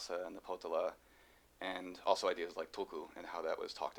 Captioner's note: non-english speech